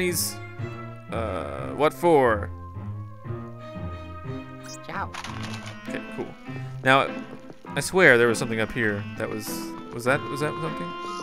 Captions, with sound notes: Ciao. - [Voiceover] Okay, cool. Now I swear there was something up here that was- was that something?